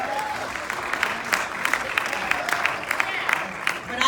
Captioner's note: clapping